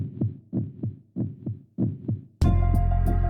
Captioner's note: sound of a heart beating; opening Music Playing